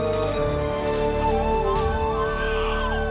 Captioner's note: baby crying